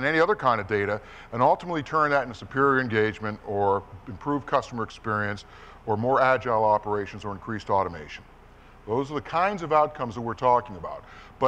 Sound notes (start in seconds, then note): none